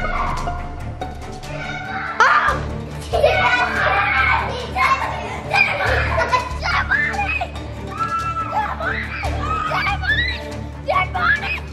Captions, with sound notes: (screaming) Dead body! dead body! Dead body! dead body! dead body!